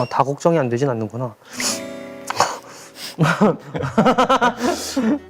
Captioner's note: tsk